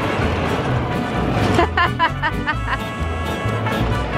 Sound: laughs

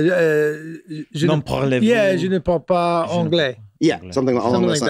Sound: Charlie and Glenn speak French

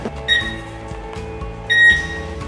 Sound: beep

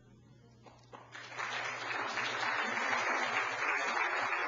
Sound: applause

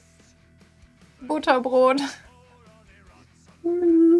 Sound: laughs

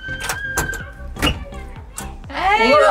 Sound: door lock squeaks

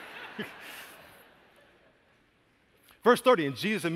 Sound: laughter

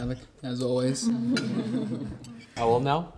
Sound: all chuckling

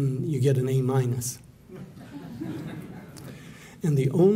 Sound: laughter

